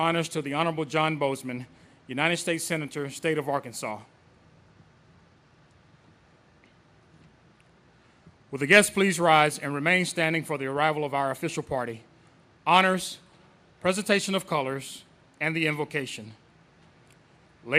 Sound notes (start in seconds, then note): none